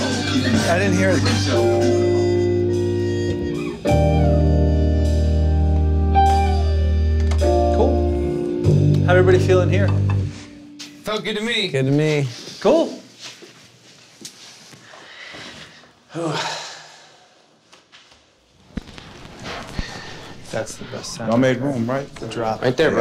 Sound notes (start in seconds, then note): 16.0 sighs; 18.5 record static